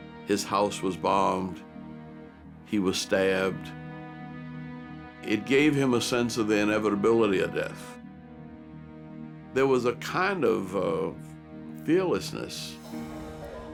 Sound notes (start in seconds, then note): none